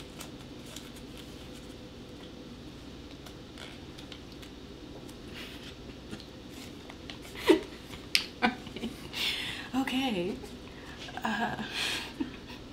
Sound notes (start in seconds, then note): 8.3 laughing